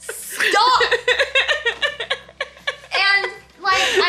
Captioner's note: laughs